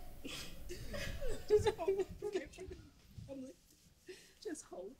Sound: Trina crying continues

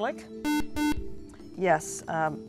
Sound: buzzer

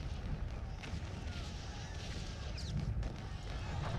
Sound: gunfire and shouting

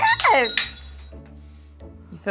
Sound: mug breaks

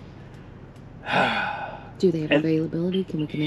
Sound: man sighs

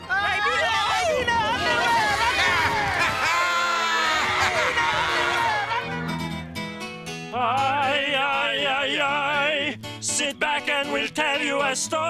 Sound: applause

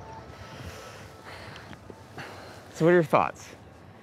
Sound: both exhaling

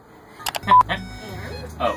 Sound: laughs; beeping, laughs; gentle music

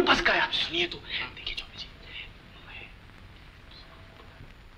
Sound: whispers

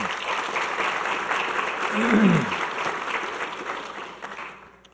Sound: audience clapping

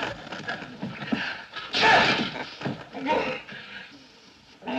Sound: sneezes

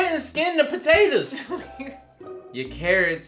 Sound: laughing

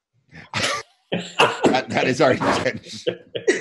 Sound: laughter

